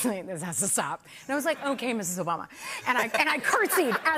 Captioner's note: laughter